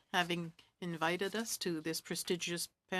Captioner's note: speaking French